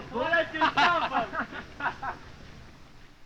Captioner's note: soldiers laughing